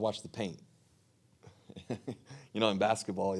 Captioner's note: chuckling